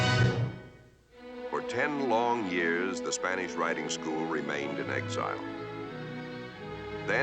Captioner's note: Podhajsky Narrating